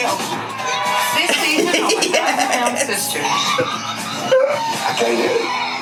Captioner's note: laughs